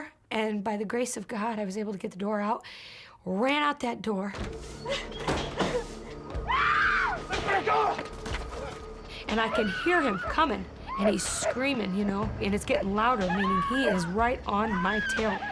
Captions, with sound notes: And by the grace of God, I was able to get the door out. Ran out that door. [screams] And I can hear him coming. And he's screaming, you know. And it's getting louder, meaning he is right on my tail.